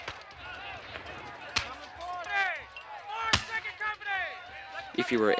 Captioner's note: commanding shouts